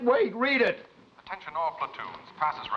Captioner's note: voice On Loudspeaker